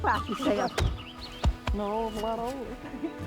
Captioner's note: patting